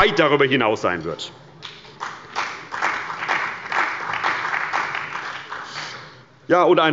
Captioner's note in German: Beifall bei der CDU und dem BÜNDNIS 90/DIE GRÜNEN